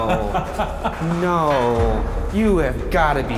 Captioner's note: laughing